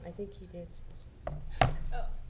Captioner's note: laughs